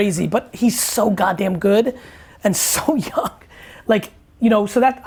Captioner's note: laughs